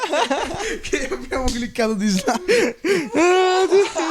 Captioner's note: laughs